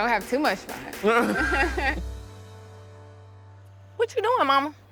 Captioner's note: both laugh